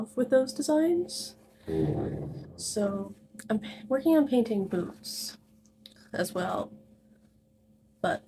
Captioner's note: chair scooting across floor